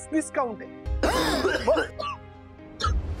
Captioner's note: coughs